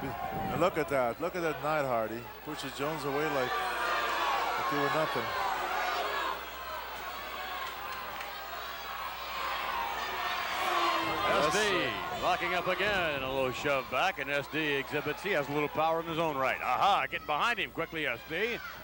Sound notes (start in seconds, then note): 7.0 applause